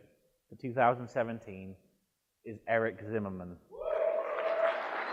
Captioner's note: cheering and applause